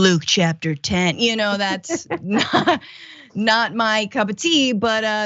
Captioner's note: laugh